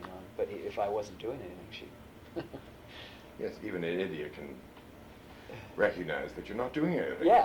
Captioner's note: laughs